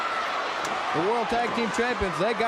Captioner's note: crowd cheering